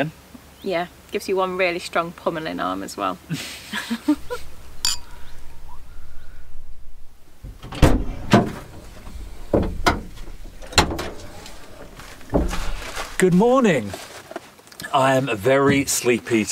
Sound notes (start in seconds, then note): 3.8 laughs; 4.5 glasses clink